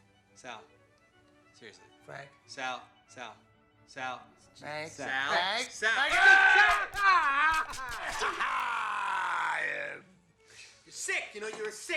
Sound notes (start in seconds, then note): 6.0 screams; 8.1 laughs